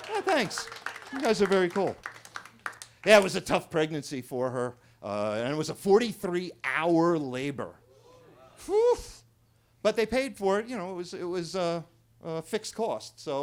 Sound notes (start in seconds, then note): 0.0 attendees cheering; 0.0 attendees clapping; 8.9 sighs